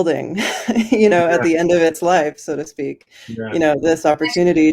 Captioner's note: chuckles